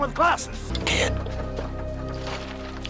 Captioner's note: whispering